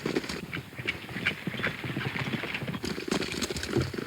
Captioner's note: hooves pounding